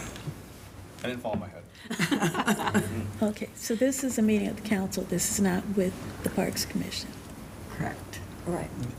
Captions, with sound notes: I didn't fall in my head. (laughing) Okay, so this is a meeting of the council. This is not with the parks commission. Correct. All right.